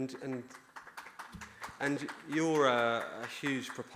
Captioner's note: audience applauding